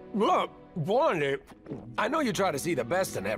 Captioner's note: chewing